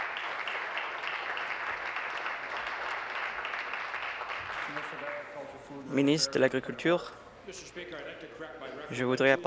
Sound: applause

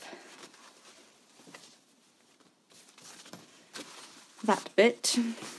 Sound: fabric rustling

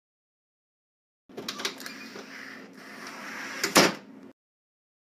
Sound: sound of door closing

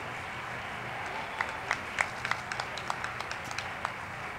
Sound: crowd clapping

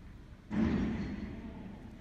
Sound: crash

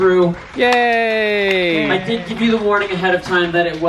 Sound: guests applauding

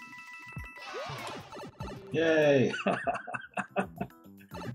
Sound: chuckles

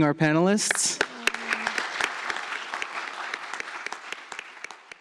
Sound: applause

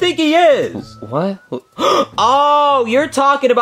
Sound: gasping

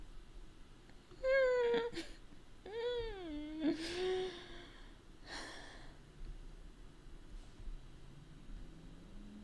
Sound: laughing more

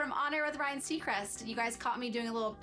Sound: none

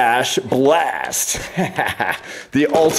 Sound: laughs

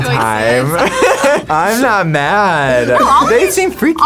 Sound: laughs

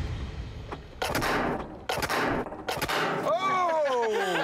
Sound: gun shots; laughter

